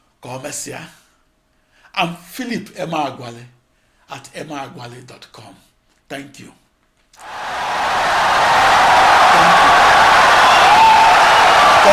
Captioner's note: wild applause and cheering for 17 seconds